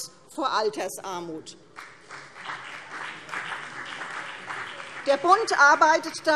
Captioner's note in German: Beifall CDU und BÜNDNIS 90/DIE GRÜNEN